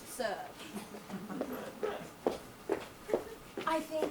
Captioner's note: audience laughs